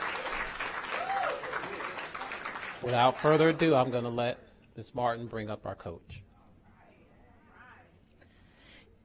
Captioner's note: applause